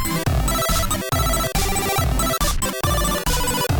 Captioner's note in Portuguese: none